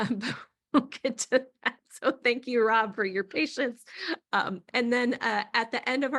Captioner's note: laughing